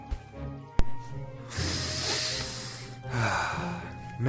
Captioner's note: sniff